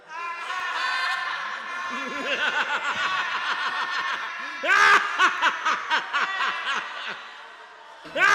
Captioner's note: Dracula laughs